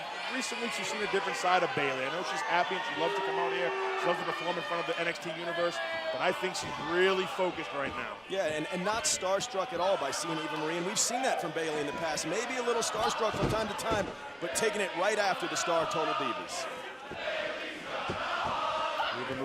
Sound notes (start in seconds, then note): 17.4 fans chanting